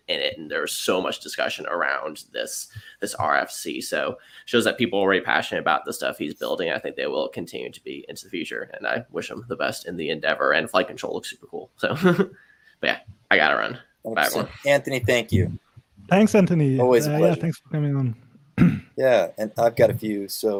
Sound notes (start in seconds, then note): 11.9 chuckles; 18.6 clears throat